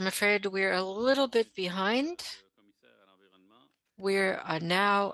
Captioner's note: speaking French